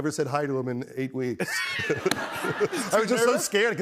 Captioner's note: laughter